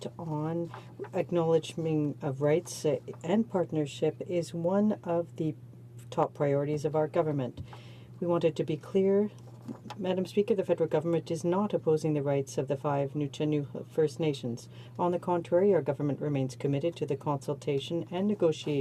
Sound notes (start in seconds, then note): 2.8 speaking French